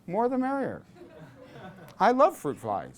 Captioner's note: class laughs